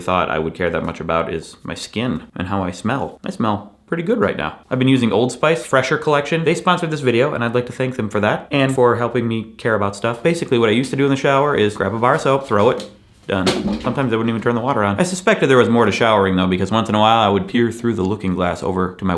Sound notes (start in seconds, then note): 11.5 soap thuds